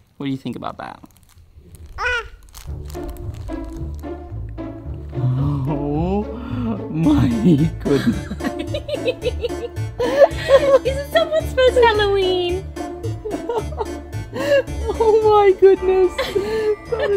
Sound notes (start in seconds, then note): 2.2 grunts; 3.7 upbeat music; 7.9 laughs; 13.6 upbeat music